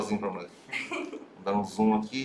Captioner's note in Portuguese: risos